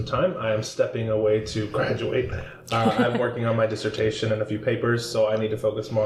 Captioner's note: chuckle